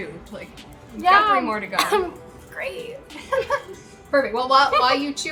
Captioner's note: coughs; laughing